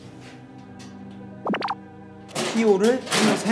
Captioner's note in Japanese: ポトッ